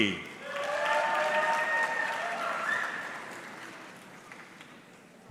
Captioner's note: audience clapping